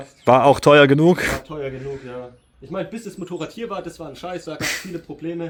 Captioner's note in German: schnauben